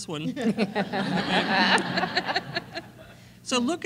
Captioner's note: laughter